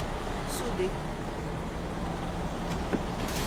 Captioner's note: speaking lithuanian